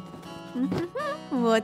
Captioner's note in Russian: лёгкое напевание